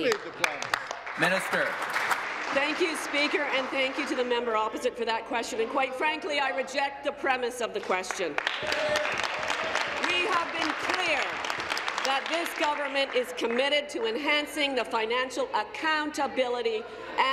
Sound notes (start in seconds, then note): 3.6 applause; 13.7 applause